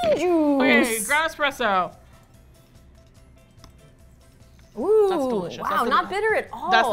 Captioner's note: excitedly; in disbelief